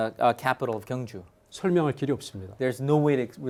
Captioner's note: speaking in Korean